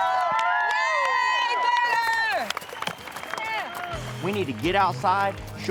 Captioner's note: cheers